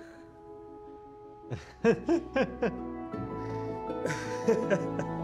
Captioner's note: laughs; laughs